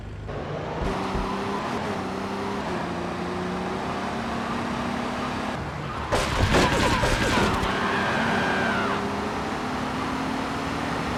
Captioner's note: sirens wailing